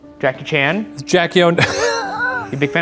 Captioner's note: laughing